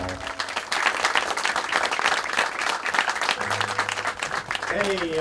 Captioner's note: applause